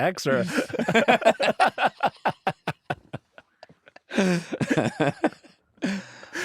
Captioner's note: laughter